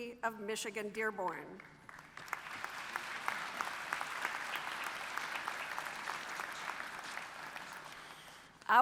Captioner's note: applause